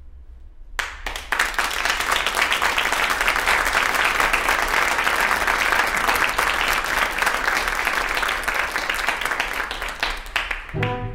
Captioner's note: applause